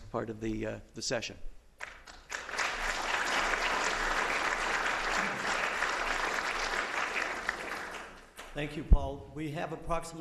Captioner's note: applause